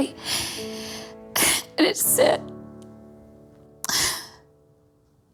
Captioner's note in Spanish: crying